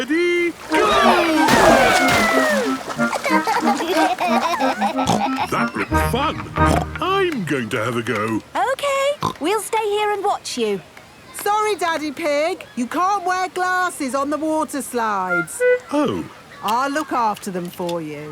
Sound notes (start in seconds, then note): 2.5 snorts; 2.7 giggling; 6.5 snorts